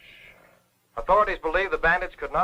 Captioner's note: radio Announcer